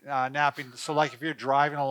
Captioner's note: laughing